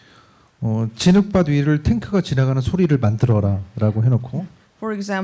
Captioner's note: speaking korean